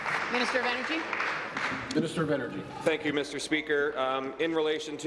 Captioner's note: applause